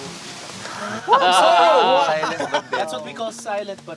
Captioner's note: campers react